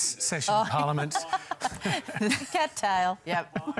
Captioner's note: laughter